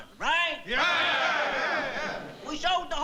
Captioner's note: cheering